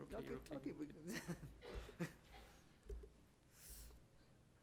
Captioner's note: chuckles